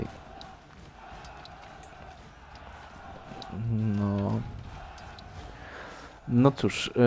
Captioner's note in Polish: Aplauz